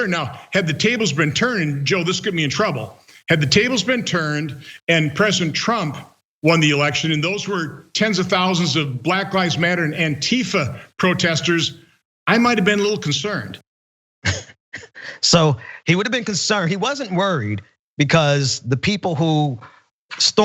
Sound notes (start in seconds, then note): 14.2 laugh